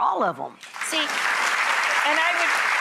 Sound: audience applause

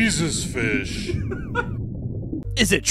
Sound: giggles off mic

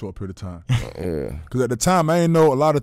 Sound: laughing

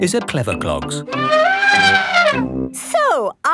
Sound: trumpeting

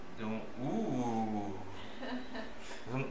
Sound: laughter

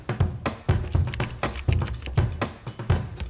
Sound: keyboard Typing

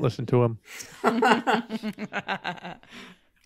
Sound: group laughing

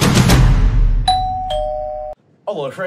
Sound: doorbell dings

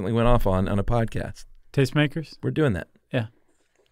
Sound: none

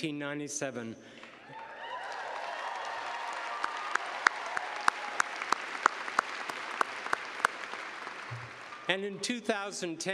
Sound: cheers and applause

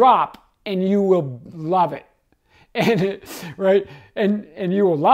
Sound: chuckling

